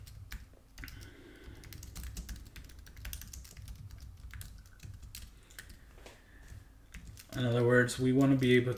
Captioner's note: typing